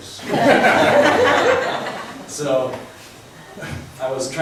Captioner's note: laughs